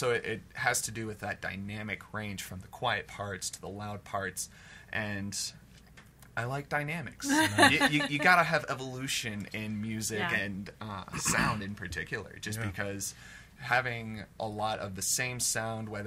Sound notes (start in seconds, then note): 7.2 laughs